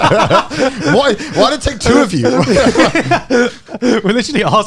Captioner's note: men laughing; laughing